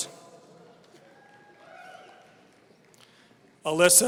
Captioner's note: audience cheering